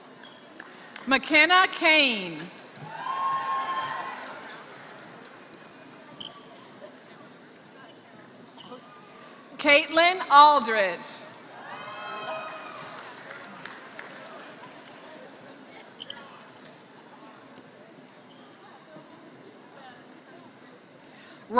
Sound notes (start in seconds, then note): 0.0 applause; 5.7 applause; 12.2 applause